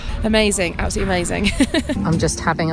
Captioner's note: laughs